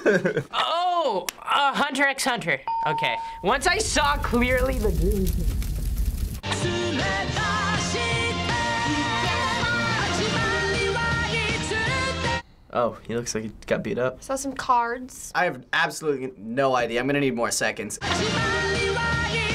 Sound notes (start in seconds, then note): 3.3 fire burning; 6.5 japanese singing; 18.0 japanese singing